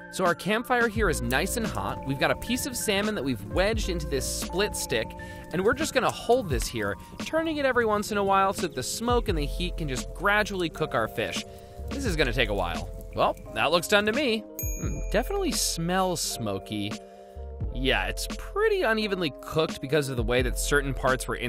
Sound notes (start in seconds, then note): 14.5 bell dings